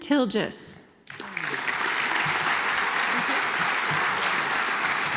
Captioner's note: audience applauds